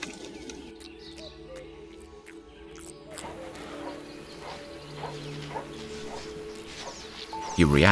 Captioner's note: ciche odgłosy lasu, mlaskanie i chrząkanie niedźwiedzia